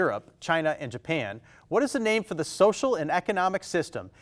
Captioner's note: none